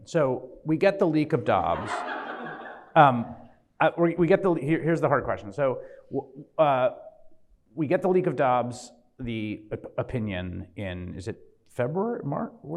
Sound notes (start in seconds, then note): 1.6 audience laughs